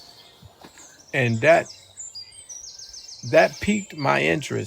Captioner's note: birds chirping